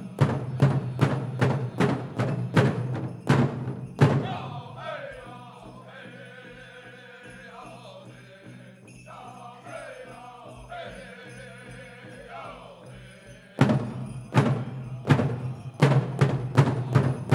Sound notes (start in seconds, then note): 0.0 drum beating intensely then gently; 6.3 regalia ornaments jingling; 13.6 drum beating intensely